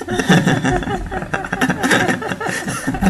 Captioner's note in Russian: смеются